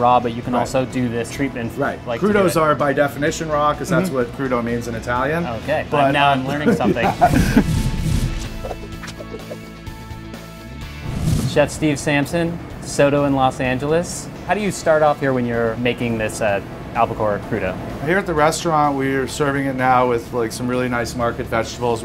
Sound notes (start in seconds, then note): 6.5 laughs; 7.7 upbeat music